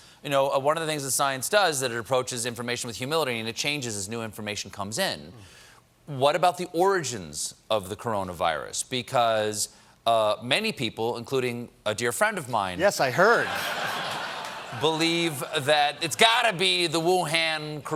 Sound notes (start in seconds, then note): 13.2 laughter